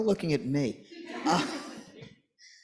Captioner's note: laughter